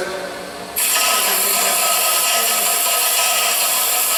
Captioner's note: loud grinding